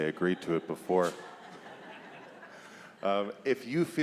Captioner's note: congregation laughs